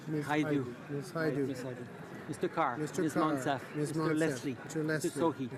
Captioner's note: speaking in french